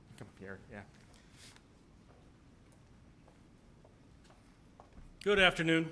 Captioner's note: footsteps